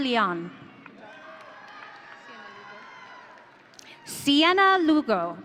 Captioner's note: audience cheering